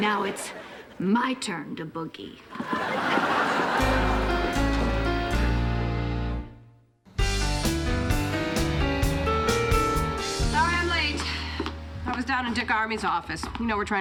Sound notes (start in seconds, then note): 2.5 audience laughing; 7.2 upbeat music